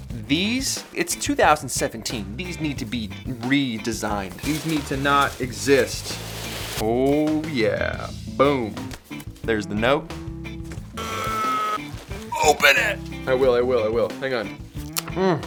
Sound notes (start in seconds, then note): 12.2 grunts